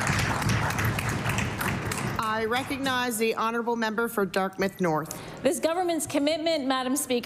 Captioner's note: applause